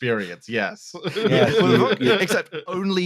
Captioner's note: laughter